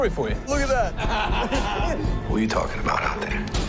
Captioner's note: men chuckling